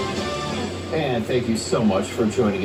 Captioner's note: on TV